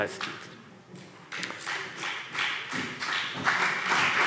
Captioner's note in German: Beifall CDU und BÜNDNIS 90/DIE GRÜNEN